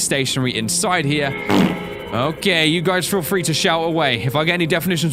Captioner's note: fart